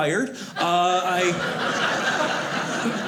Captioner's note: audience laughing